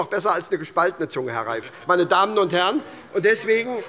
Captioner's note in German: Zuruf